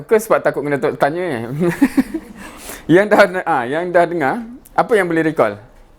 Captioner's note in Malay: ketawa